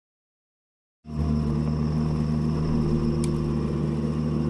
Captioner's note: engine revving